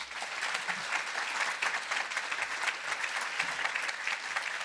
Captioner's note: audience applauding